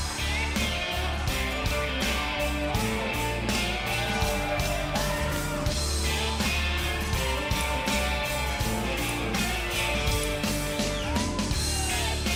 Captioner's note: crowd cheering